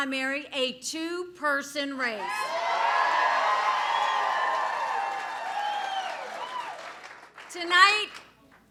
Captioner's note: applause